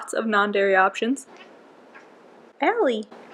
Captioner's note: cat starts squawking